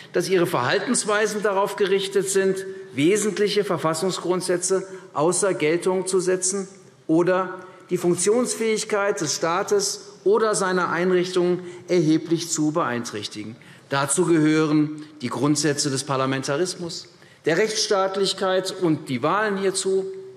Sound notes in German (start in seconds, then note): none